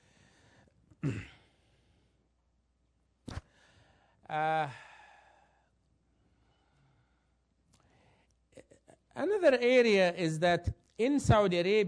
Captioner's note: cough